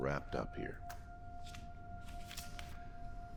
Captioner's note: papers rustling; suspenseful electronic music